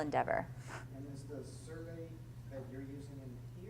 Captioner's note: voiceover